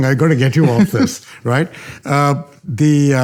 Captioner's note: chuckling